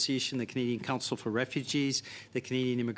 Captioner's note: speaking French